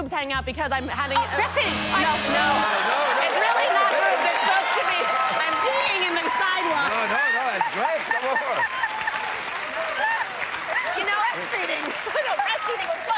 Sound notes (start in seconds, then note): 0.9 buzzer sounds; 7.0 laughs; 9.0 cheers and applause